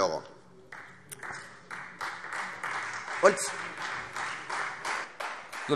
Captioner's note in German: Beifall Freie Demokraten